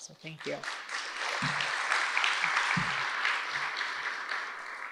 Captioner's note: audience applauds